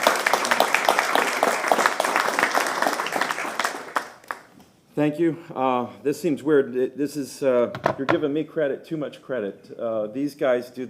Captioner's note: applause